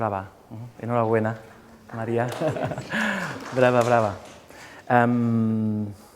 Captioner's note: speaking in a foreign language